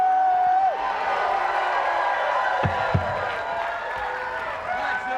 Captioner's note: audience applauds and cheers